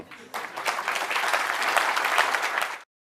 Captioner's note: applause